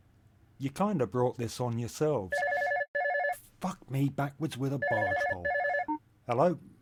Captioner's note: telephone rings